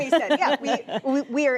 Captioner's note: laughter